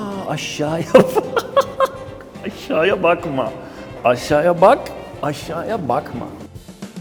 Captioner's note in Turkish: kahkaha